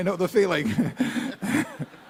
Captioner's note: laughter